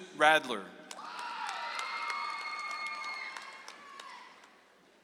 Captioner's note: audience applauds